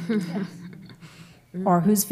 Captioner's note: laughs